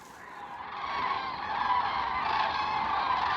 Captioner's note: birds cawing